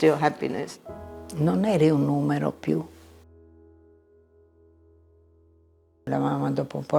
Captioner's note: speaking in foreign language